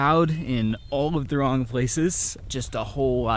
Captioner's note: birds tweeting